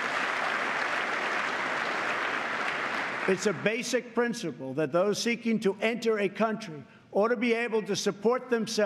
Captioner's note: applause